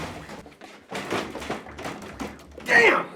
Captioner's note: door rattles